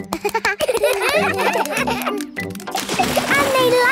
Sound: children laugh

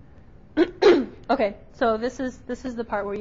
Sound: clears throat

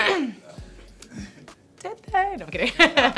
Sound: laughing

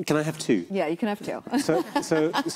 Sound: laughs

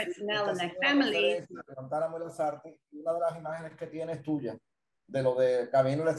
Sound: speaking in foreign language

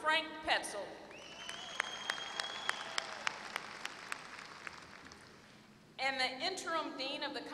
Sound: applause

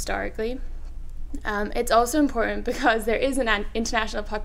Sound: laughs

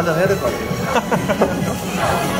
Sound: hahahah

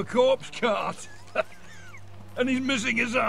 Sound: laughs

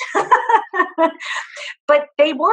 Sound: laughs

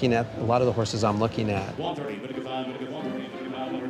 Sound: auctioneer calling

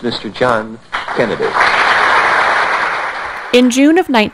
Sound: applause

